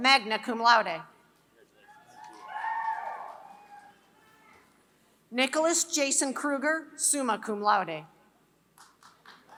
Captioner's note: applause